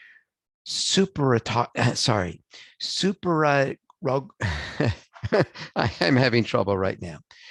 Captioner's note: laughs